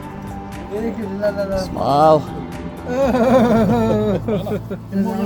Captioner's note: laughing